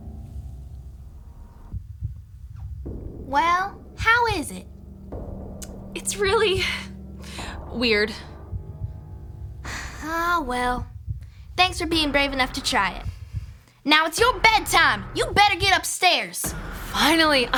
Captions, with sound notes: - Well, how is it? - It's really weird. - (sighs) Ah, well, thanks for being brave enough to try it. Now it's your bedtime! You better get upstairs.